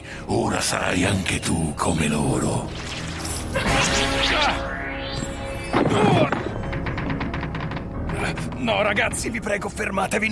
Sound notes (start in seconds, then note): 4.1 dragon grunts